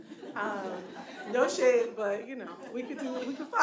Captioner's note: audience laughing